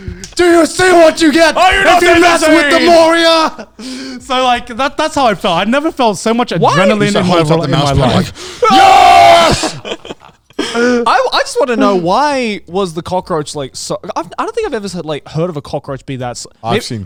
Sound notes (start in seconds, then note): 8.6 speakers screaming; 9.4 laughing